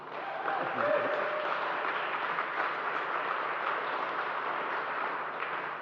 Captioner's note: applause